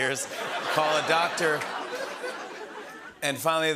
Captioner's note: laughter